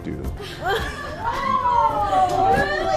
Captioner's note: woman laughing